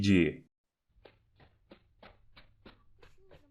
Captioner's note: muffled steps on carpet